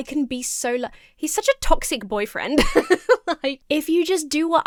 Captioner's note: laughs